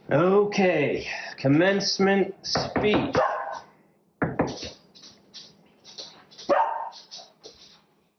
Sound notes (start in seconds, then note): 2.9 knocking and barking